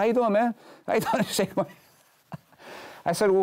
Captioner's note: laughs